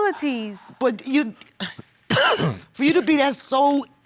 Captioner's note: stammering